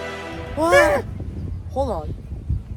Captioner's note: Steve and Benny exclaim in fear